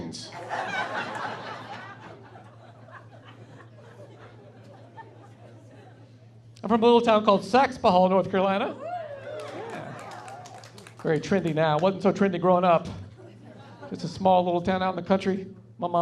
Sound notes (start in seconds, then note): 0.4 laughing; 8.6 audience woos; 13.1 laughing